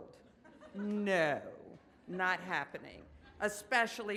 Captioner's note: audience laughs